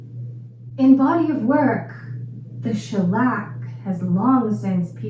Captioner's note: American accent